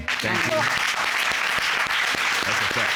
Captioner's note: audience applauding